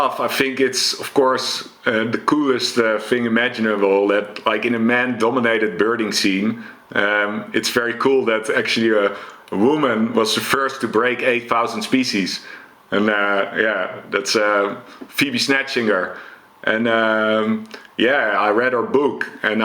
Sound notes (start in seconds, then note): none